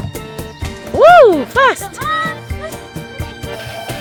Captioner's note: speaking German